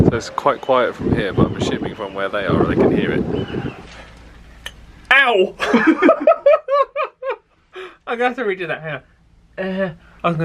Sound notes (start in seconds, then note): 5.6 laughs